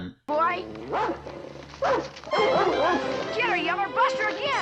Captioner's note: sound of Old Yeller barking at cow